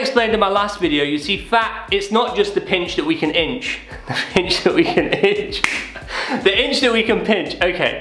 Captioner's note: laughter